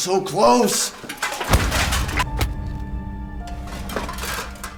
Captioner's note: stone thumps; head smacks floor; armor clanking